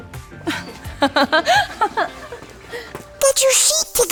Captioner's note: giggles